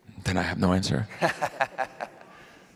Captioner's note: laughter